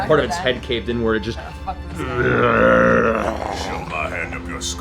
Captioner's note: deep zombie groan